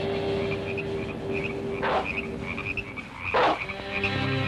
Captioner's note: dog barking